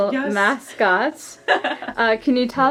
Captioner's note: laughing